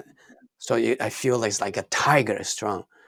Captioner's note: none